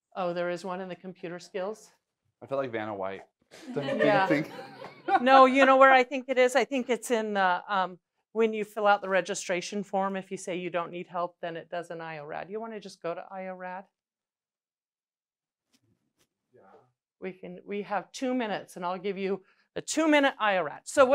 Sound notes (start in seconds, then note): 3.6 laughing